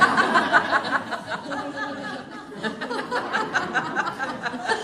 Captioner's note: laughter